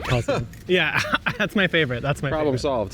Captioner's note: laughing